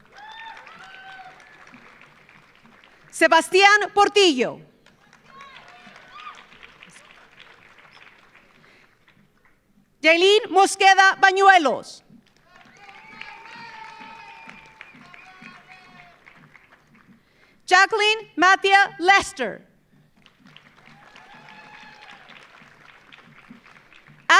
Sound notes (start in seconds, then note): 0.0 audience cheering; 0.0 audience applauding; 4.7 audience applauding; 5.0 audience cheering; 12.2 audience applauding; 12.4 audience cheering; 20.1 audience applauding; 20.6 audience cheering